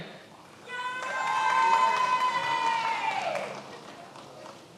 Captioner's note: many applauding